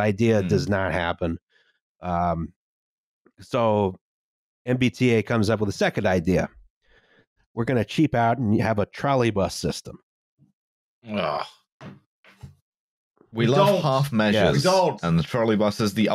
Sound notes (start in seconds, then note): 11.9 thumping sounds